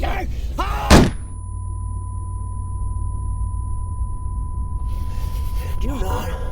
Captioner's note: gun fire, loud ringing sound